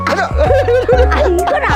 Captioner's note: both laughing